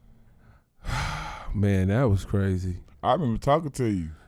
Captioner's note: exhales